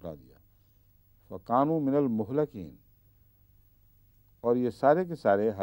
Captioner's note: Arabic